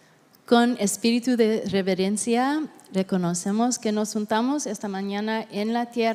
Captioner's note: interpreter speaking in Spanish